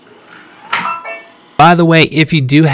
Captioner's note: rings softly